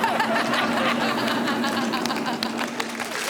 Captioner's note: whistles; all laughing